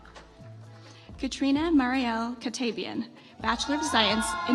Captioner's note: audience applauds